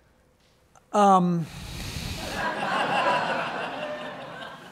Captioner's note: audience laughs